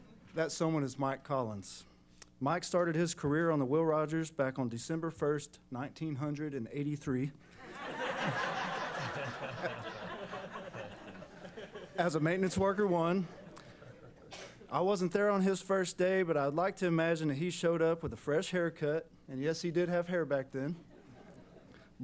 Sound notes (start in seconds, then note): 7.6 laughing